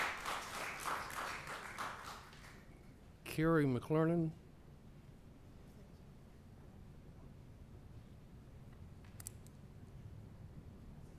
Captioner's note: applause